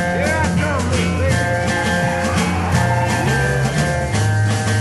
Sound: men whooping

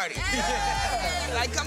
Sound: all cheering

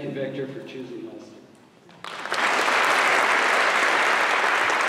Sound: applause

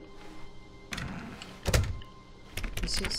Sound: door closes

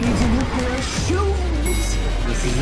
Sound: ding

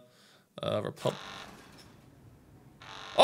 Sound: alarm sounds

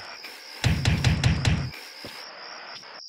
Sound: knocks loudly on the door

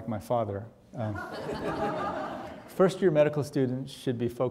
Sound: audience laughing

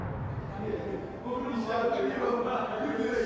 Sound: chatter

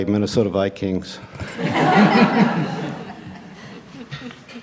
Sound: laughter

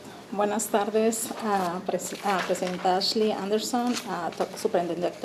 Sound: speaking Spanish

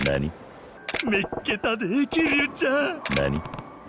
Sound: speaking Japanese

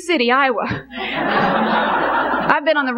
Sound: congregation laughing

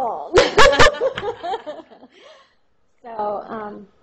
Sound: laughter

